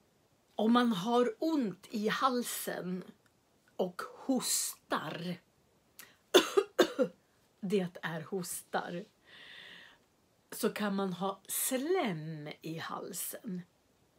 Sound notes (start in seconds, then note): 6.3 coughing